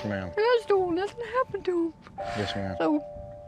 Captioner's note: says tearfully